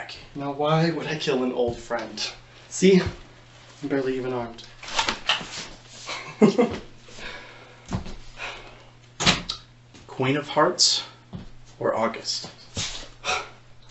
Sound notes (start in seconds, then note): 6.0 laughs